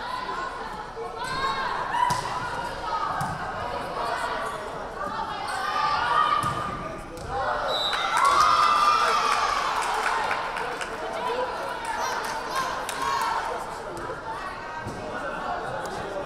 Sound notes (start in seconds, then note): 7.6 crowd cheering; 7.7 whistle blaring